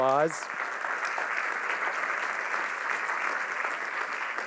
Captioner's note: applause